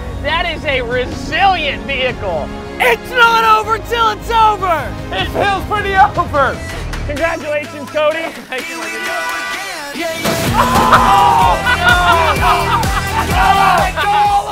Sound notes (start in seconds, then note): 8.6 laughs; 8.6 singing; 10.5 exclamations and laughter